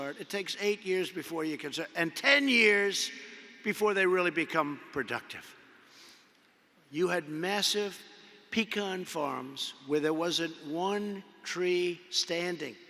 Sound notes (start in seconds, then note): none